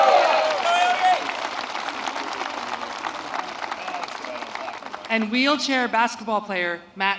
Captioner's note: applause